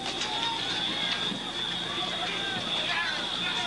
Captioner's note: crowd clamoring